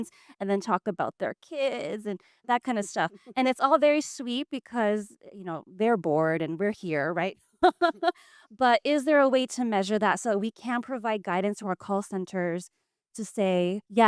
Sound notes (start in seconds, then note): 7.6 laughs